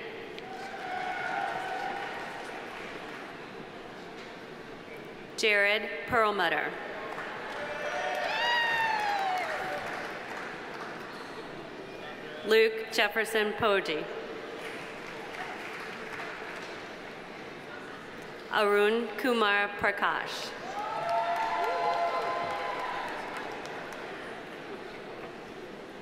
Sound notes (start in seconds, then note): 0.4 audience cheering; 0.5 audience applauding; 7.0 audience applauding; 7.5 audience cheering; 14.6 audience applauding; 20.6 audience cheering; 20.7 audience applauding